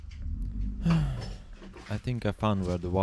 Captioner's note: sigh